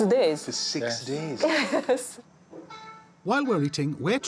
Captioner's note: giggles